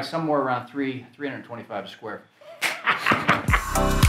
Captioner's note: laughs